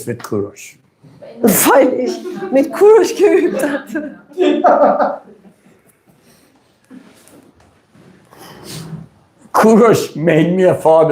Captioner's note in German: gelächter